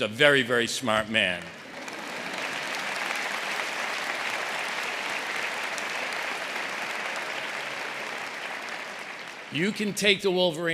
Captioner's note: applause